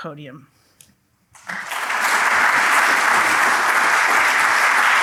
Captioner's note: applause